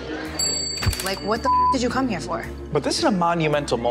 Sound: beep

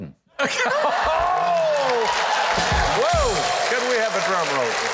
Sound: audience applauding loudly

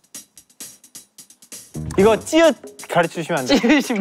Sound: mispronunciation

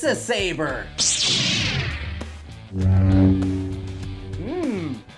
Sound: whirring sound

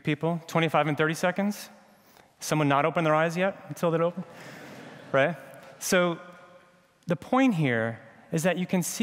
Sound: laughter

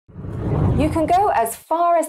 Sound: wind blows

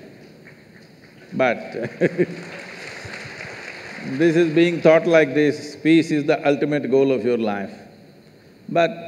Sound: laughs/Applause

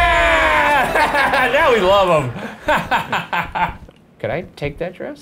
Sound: laughs

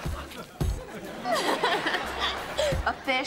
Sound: laughing

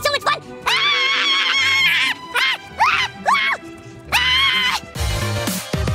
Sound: screaming

